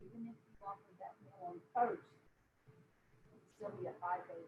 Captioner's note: murmurs